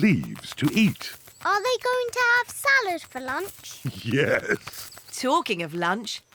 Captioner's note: laughs